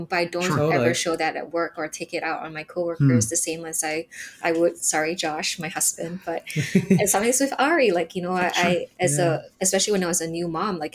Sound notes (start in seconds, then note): 6.4 chuckles